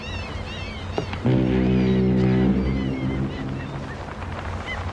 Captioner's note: foghorn sounding